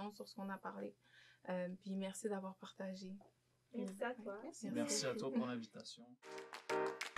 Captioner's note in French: en choeur